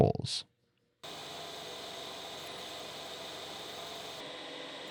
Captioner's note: machine whirring